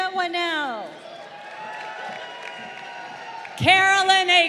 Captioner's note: crowd cheering